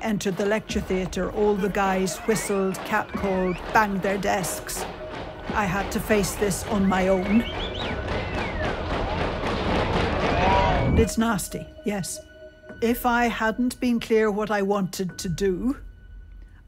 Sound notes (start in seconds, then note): 4.5 banging; 6.5 whistling